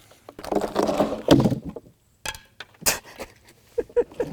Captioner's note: wood cranking; wood thuds; laughs